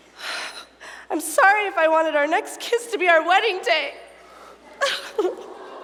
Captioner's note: sobbing